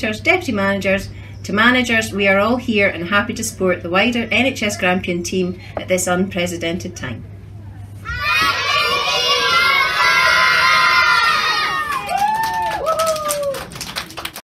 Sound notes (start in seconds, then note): 8.0 children shouting